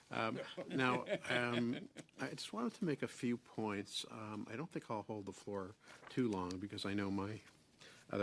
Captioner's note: laughter